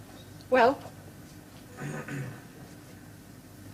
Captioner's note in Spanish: Se aclara la garganta